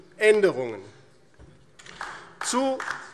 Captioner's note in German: Beifall DIE LINKE